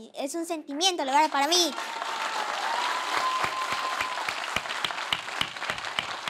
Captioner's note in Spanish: Ovación